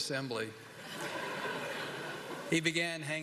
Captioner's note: laughter